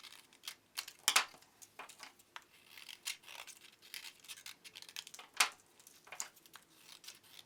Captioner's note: scissors clatters; scissors snipping